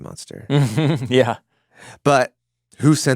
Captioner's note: chuckles